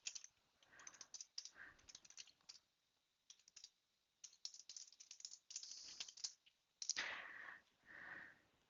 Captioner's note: typing